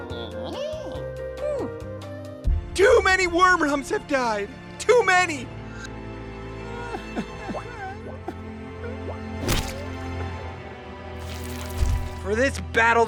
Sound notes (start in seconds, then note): 6.6 gently sobbing